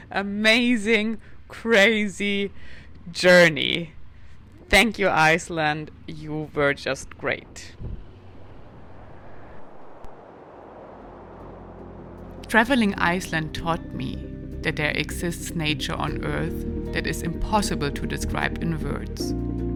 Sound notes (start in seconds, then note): 7.4 wind howling; 8.6 water sloshing